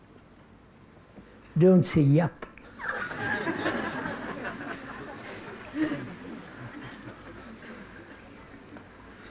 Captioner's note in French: rires